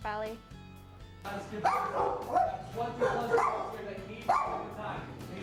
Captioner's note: barking